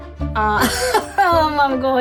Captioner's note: laughing